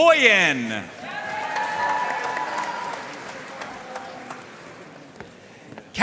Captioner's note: audience cheering and applauding